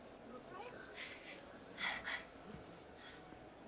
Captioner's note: gasping